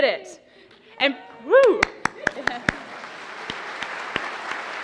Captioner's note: cheers and applause